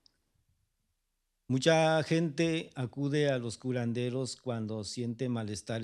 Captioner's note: speaking spanish